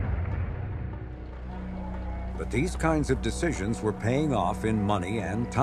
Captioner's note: engine roaring